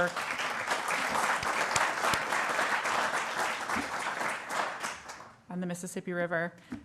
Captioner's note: applause